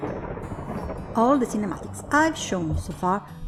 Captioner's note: thunder strikes